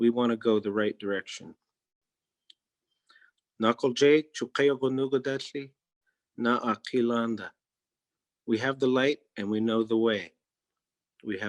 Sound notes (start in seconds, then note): 4.5 speaking in Native Language